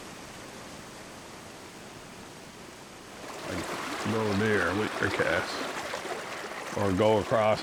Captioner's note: river rippling